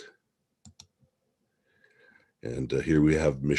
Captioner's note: mouse clicking